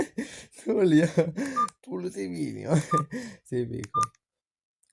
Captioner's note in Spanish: rie un poco